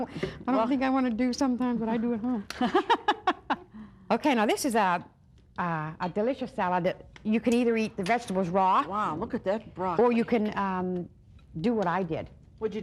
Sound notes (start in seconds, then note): 2.5 laughing